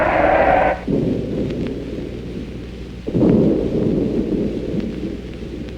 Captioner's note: explosions booming